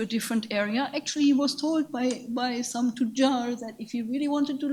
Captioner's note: speaks in a foreign language